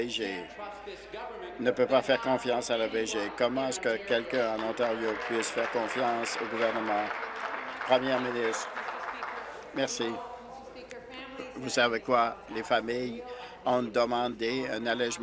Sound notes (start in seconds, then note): 8.6 applause